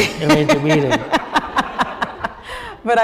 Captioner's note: laughter